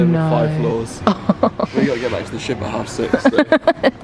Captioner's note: laughs